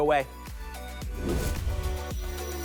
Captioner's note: whoosh